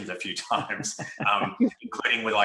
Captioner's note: presenters laughing